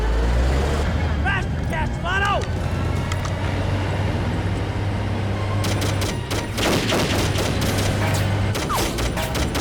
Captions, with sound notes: (tank rumbling) - Faster, Castellano. (gunfire clattering)